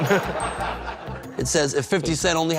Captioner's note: laughter